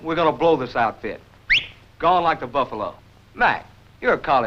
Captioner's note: whistles